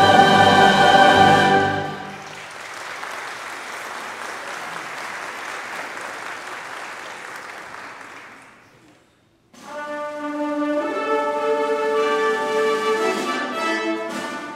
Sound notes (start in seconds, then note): 2.2 congregation applauding; 9.5 bright orchestral music